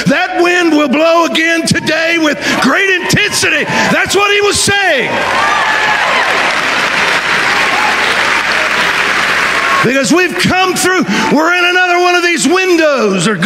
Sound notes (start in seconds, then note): 7.7 audience applauding